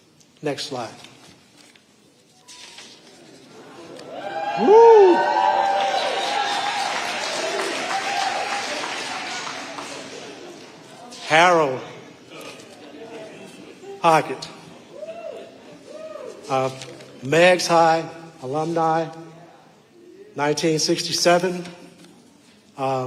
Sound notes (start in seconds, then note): 4.0 audience cheering; 6.9 audience applauding; 14.6 audience members cheering